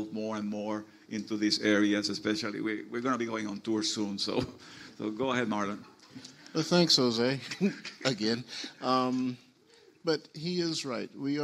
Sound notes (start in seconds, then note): 7.4 laughs; 7.7 panelists laugh